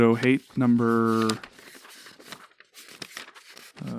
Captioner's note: paper rustling